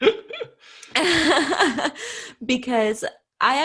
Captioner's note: laughs